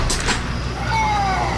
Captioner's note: groans in the distance